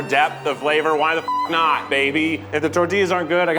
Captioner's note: beep